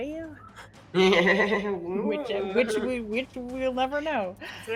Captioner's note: laughs